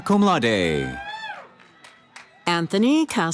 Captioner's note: cheering